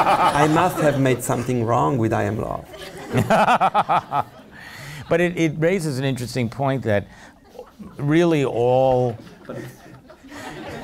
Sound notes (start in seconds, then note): 2.6 laughs